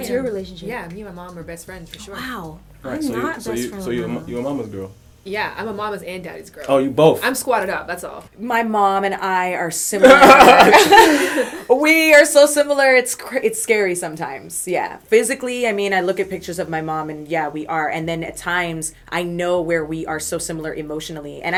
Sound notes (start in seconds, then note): 10.0 laughter